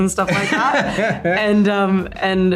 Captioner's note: Colin laughing